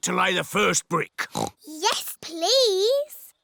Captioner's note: oinks